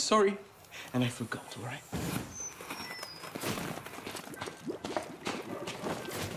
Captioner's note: whistling, bubbling